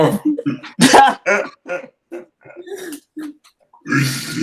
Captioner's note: chuckles